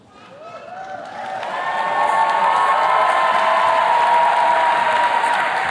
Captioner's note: attendees cheers and claps